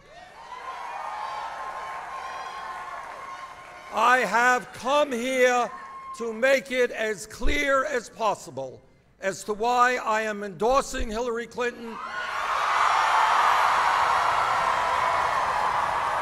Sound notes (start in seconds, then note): 3.1 applause